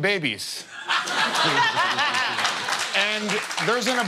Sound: laughter

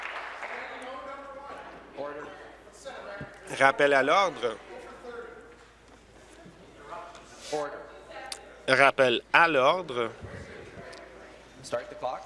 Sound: some Applause

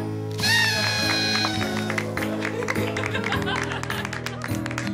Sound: party horn, laughter, applause

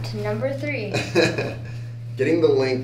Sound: laughs

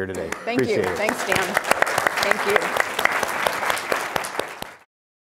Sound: everyone applauding

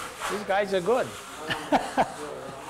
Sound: happy laughter

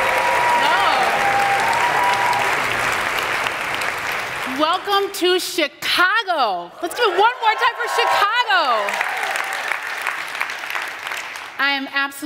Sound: applause

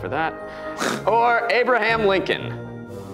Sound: grunts

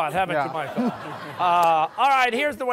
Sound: laughter

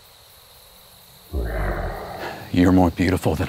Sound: breathes heavily

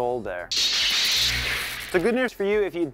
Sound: crashing

